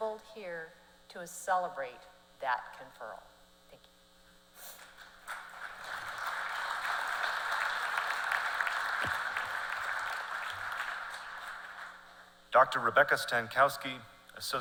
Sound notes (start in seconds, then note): 12.0 applause